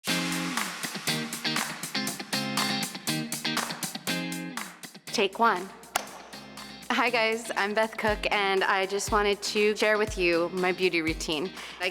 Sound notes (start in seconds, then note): 0.1 upbeat music; 4.6 claps